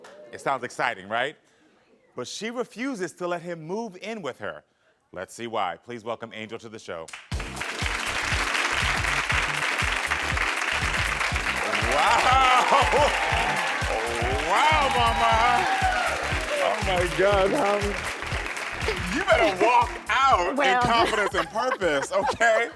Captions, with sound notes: It sounds exciting, right? But she refuses to let him move in with her. Let's see why. Please welcome Angel to the show. (audience clapping) Wow. Wow, mama. (audience cheering) Oh my god. You better walk out with confidence and purpose. Okay?